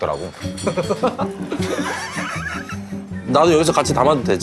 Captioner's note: hahahahahaha